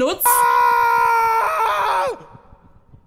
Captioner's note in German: Schreie